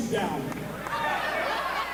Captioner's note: crowd yells; woman laughs